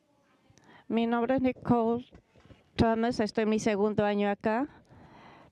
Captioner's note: speaking foreign language